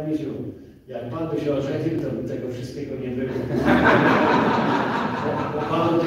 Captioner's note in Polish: Śmiech z sali